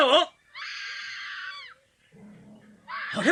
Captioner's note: SFX: woman screaming